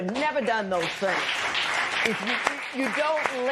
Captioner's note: applause